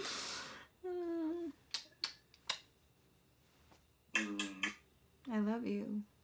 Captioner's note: kissing sounds